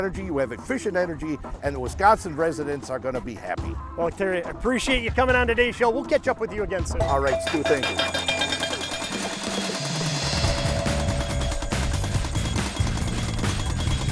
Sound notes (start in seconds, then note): 8.8 machinery operating; 11.2 upbeat music